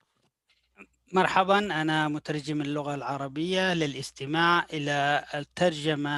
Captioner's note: man speaking in foreign language